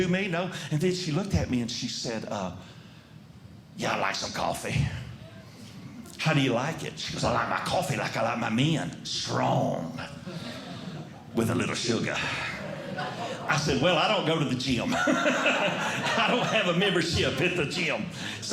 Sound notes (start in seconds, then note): 14.8 laughing